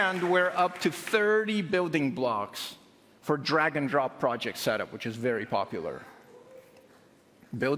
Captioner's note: applause